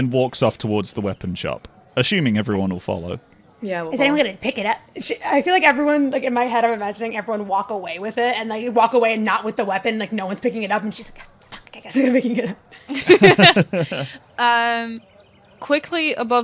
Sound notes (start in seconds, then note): 11.5 struggles; 12.8 laughter